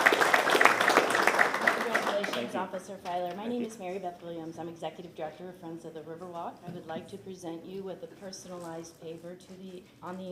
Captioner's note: applause